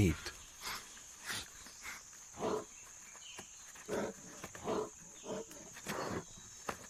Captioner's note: bear sniffing and grunting